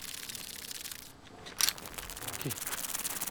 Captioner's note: weird hissing sound